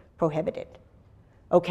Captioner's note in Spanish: pausa